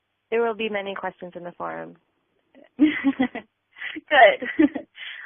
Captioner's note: laughing